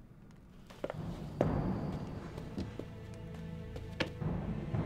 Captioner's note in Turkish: Ayak sesi